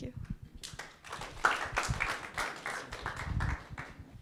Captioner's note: audience clapping